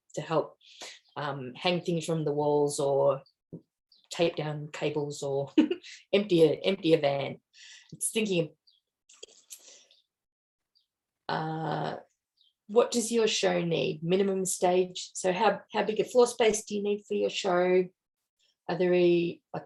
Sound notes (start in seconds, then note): 5.5 chuckles